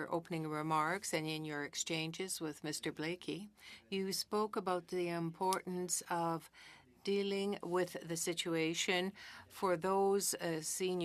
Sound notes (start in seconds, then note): 5.2 speaking in French